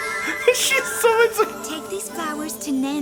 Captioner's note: laughs